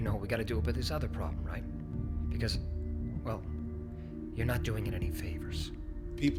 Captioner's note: none